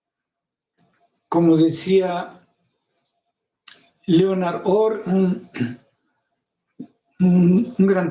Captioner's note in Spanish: carraspeo